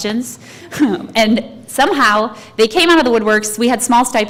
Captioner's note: laugh